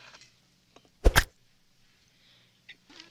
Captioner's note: plap